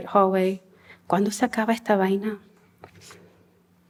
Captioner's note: non-english speech